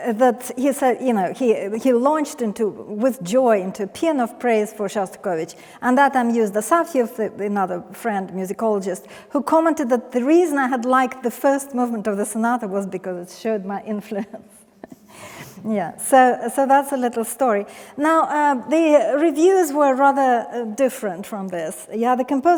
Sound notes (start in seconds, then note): 14.8 chuckles